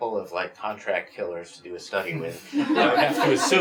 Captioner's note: laughs